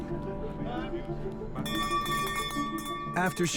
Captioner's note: ringing